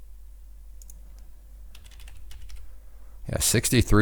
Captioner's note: typing